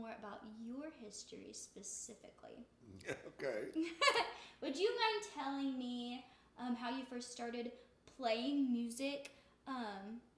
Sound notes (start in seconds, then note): 2.9 laughs; 3.0 chuckles